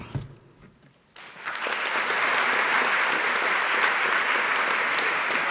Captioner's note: audience clapping